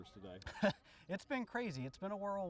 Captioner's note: laughs